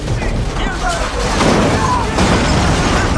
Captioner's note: guards exclaiming